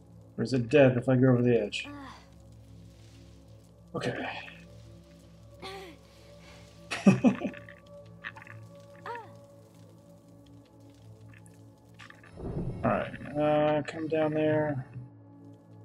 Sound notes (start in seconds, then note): 1.8 grunting; 6.9 chuckles